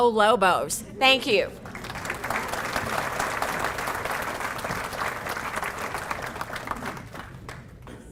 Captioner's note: applause